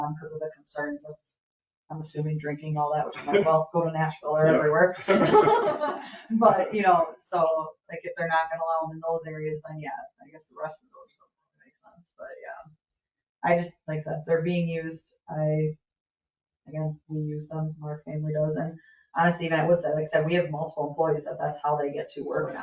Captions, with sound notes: that was the area they didn't want them because of the concerns of, I'm assuming drinking and all that. Which is like well go to Nashville or wherever. (members laugh) But you know, so like if they're not gonna allow them in those areas, then yeah I guess the rest of those don't make sense. But yeah, I just, like I said, they're being used. Again, we use them, our family does and honestly even I would say, like I said, we have multiple employees that that's how they get to work